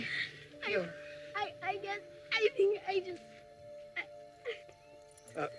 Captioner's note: crying